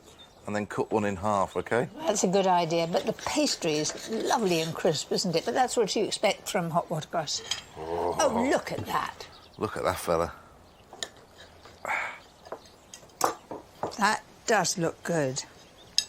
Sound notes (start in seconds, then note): none